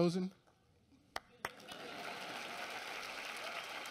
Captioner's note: applause